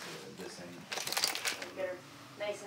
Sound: plastic crunching

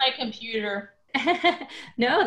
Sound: chuckles

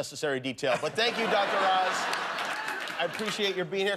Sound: laughter

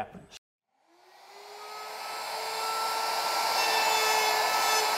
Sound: router operating

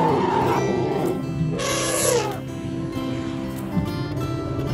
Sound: elephants trumpeting

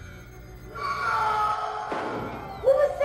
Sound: blood-curdling scream

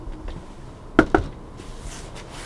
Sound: knocks

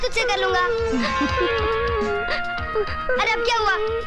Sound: crying

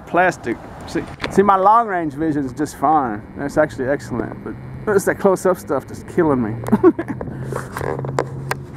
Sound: laughing

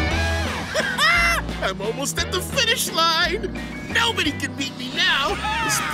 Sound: laughs

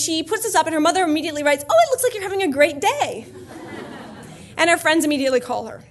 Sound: laughter

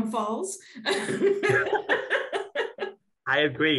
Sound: laughs

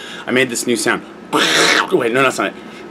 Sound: quacking noise

